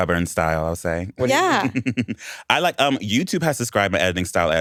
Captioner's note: laughs